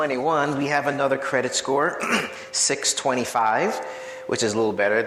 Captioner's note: clears throat